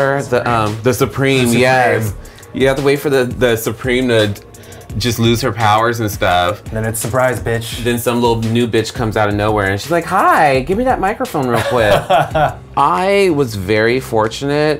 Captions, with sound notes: - The Supreme. - The Supreme, yes. You have to wait for the Supreme to just lose her powers and stuff. - Then it's surprise bitch. - Then some little new bitch comes out of nowhere and she's like hi, give me that microphone real quick. (laughs) I was very fortunate.